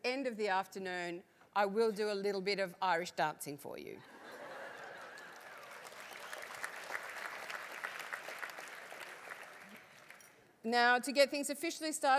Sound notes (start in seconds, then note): 3.6 laugh; 4.8 applause